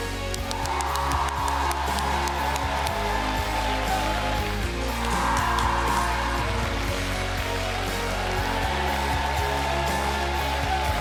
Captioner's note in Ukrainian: оплески